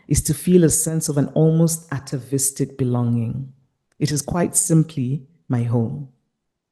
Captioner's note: none